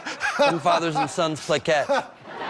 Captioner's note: laughter